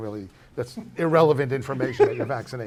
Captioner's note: laughs